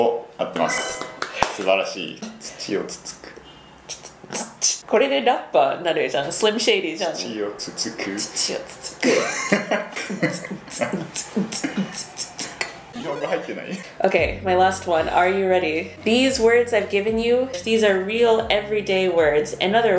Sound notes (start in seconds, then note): 10.3 starts beatboxing